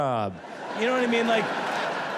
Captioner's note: audience laughs